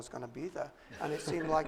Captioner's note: laughter